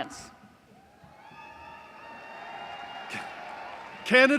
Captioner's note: applause